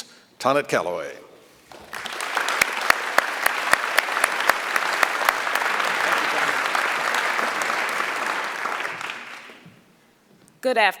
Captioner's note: applause